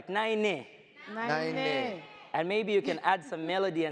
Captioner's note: speaks foreign language